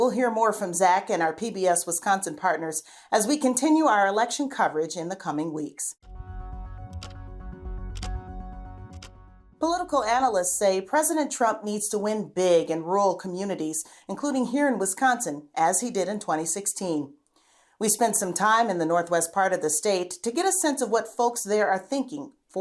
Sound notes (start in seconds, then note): 6.0 dramatic music; 6.9 clock ticking